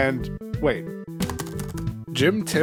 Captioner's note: typing noises